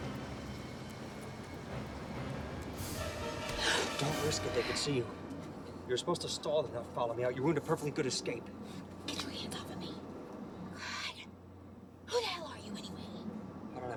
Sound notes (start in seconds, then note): 3.5 Mary gasps